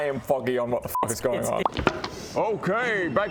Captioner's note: pop!